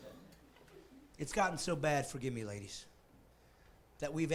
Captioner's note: laughing